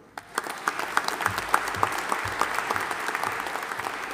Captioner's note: audience applauding